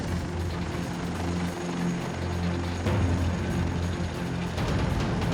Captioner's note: helicopter blades spinning; ominous music